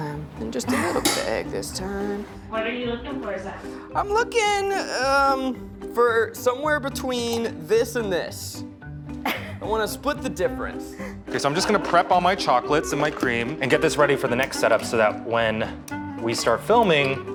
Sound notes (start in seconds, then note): 9.2 laughing